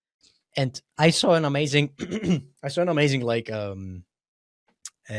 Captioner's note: clears throat